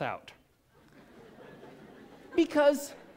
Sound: laughter

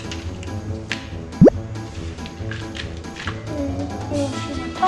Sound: playful music; bloop noise

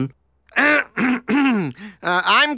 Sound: throat clearing

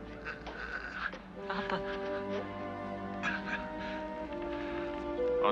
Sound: grunting

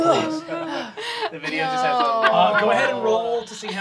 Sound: laughing

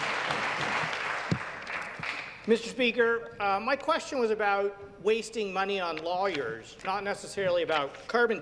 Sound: some Applause

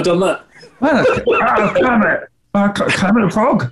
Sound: laughing; bad kermit impression

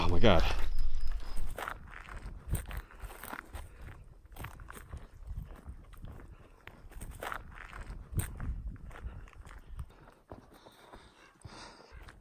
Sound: footsteps on gravel

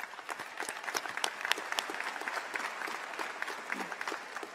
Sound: applause

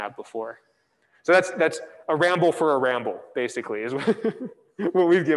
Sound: laughs

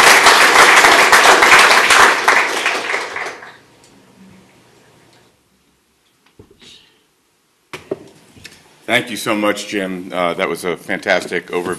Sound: applause

